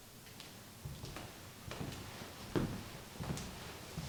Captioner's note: footsteps approach